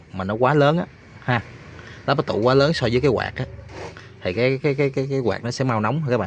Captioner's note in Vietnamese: khịt mũi